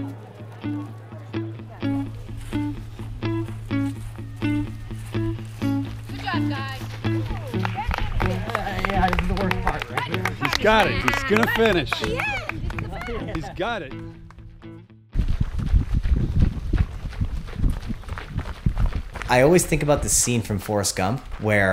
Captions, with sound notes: (guitar music) (cheering) I always think about the scene from Forrest Gump where